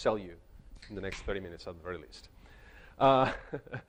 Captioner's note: chuckles